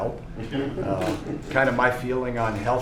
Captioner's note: laughter